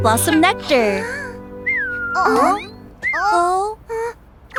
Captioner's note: weak chirping